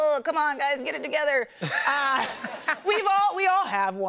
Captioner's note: laughter